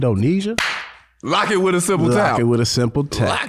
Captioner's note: claps